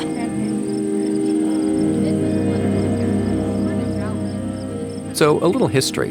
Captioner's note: people chatter indistinctly